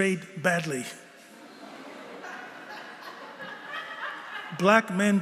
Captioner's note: laughter